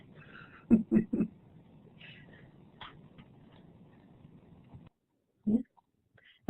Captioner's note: laughter